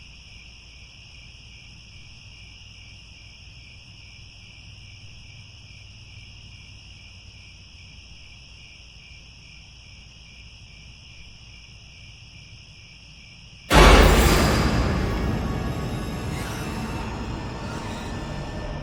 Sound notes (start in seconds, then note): 16.6 crickets